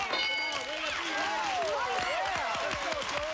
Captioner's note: cheers and applause